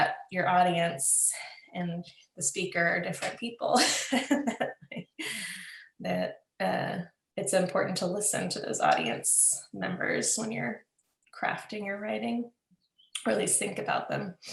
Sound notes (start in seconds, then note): 5.0 laughs